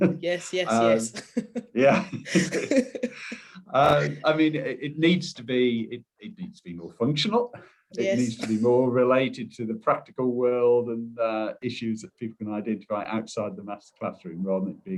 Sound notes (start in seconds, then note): 3.6 chuckling